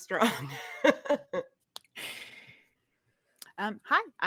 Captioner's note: chuckles